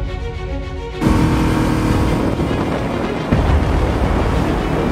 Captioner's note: motor revviing